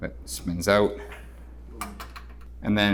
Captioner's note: door hardware clicks